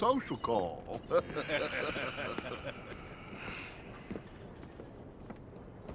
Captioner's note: Micah and Dutch laugh and walk to the river. Arthur sighs